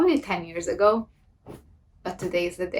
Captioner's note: clothing plopping